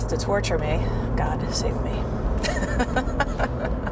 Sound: laughs

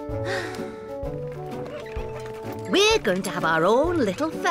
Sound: sighs

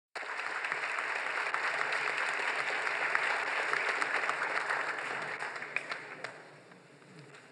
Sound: applause

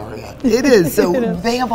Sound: laughs

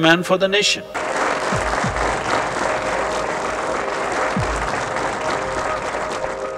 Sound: applause

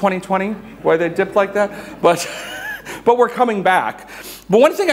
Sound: chuckles

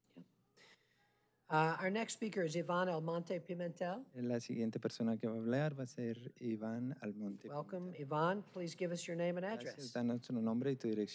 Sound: speaking spanish

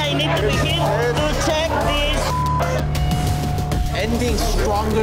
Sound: beep

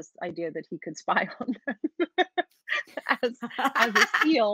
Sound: laughs

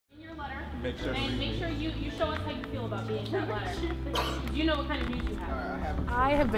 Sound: background conversations

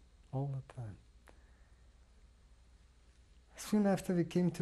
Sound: pauses for 3 seconds

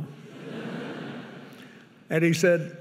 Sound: audience laughing

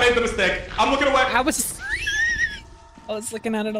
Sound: laughs

